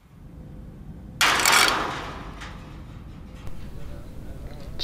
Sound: sound of metal door clanging shut

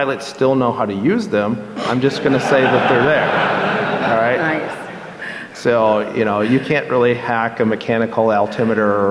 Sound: laughter

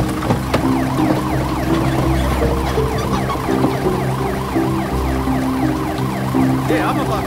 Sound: ambulance siren wails

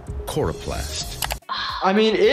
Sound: exhales

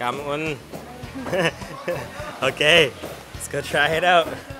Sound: chuckles

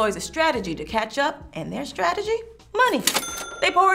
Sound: cash register dinging

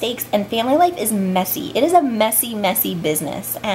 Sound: none

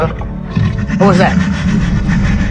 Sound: Indominus low rumble

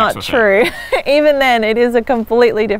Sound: laughs

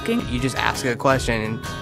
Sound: voiceover

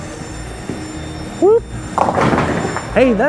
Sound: bowling ball thuds; pins clattering

